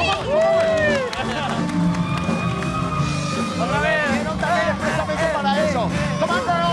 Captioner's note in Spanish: Gritos